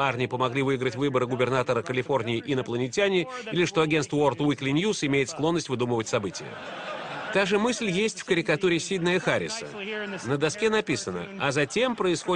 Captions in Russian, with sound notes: что Арнольд воспользовался помощью внеземных цивилизаций при баллотировании в губернаторы? Или что новостное агенство выпускает подделки? (Смех в зале) Та же тема хорошо отражена здесь, в этой карикатуре Сидни Харрис.